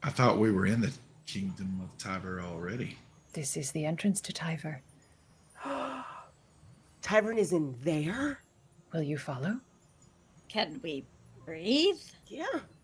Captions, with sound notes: - I thought we were in the kingdom of Tyver already. - This is the entrance to Tyver. - (gasps) Tyver is in there? - Will you follow? - Can we breathe? - Yeah.